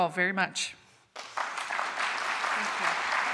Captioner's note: applause